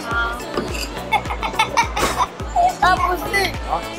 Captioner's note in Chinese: 豪邁笑聲超可愛